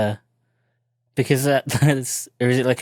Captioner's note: chuckles